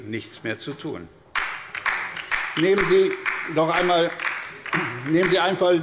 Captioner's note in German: Beifall bei der LINKEN